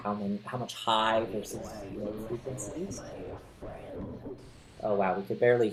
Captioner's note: sound gets muffled